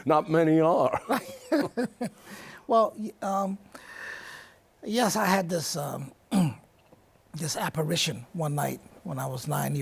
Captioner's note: laughs